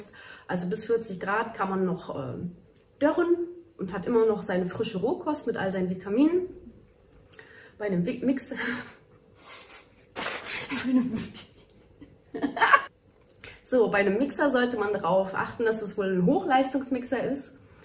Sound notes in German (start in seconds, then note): 10.1 lachen